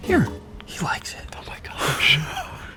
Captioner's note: whispers